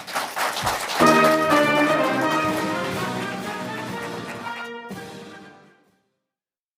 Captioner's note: applause